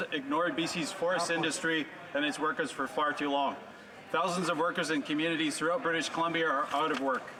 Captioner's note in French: voix de l'interprète